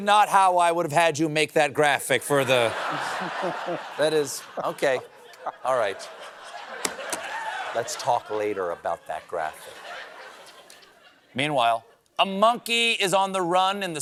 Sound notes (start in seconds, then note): 2.8 cheering